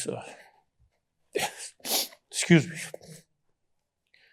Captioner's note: sniffles